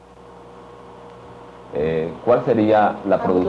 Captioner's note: speaking Spanish